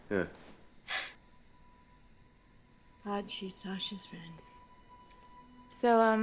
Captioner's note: scoffs